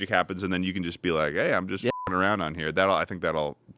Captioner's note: beep